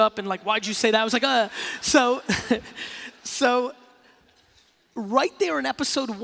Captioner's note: laughing